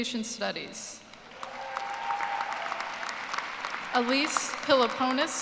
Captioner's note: cheers and applause